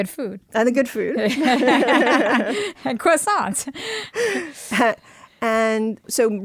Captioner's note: laughter